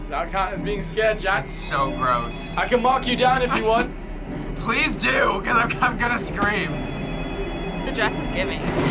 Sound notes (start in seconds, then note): 3.3 laughs